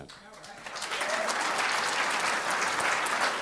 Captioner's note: applause